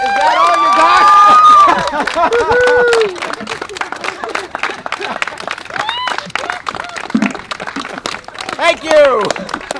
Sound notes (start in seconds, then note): 0.0 cheering; 2.0 clapping and Cheering